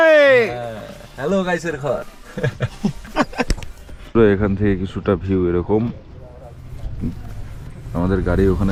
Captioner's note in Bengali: সশব্দ হাসি